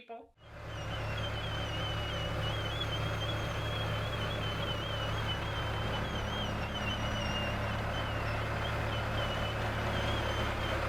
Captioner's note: sound of tractor backing up